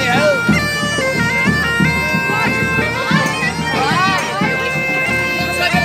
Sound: indistinct cheering

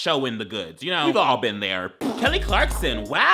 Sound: laughing

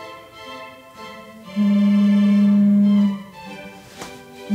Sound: phone vibrates

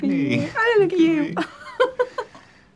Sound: chuckles

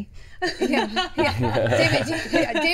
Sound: all laughing

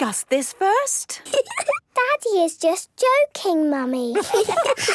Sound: laugh; menacing voice

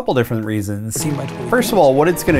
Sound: documentary playing

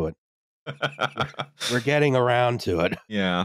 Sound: laughs

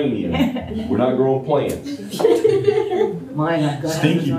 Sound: laughter

